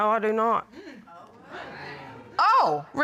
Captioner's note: audience exclaiming